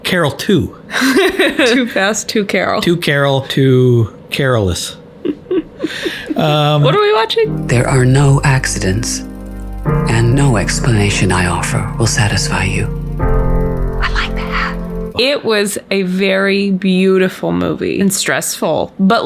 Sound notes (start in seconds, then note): 1.0 laughs; 5.2 laughs